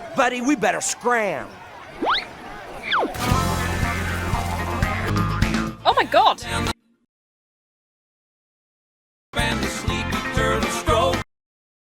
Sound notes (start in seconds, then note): 2.0 whistle sweeps up and down; 3.0 water splashes; 3.1 lively swamp rock